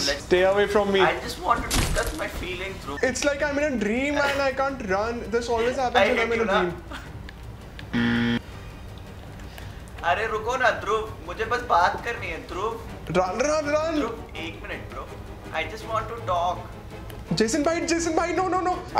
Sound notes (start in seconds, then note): 10.1 speaking foreign language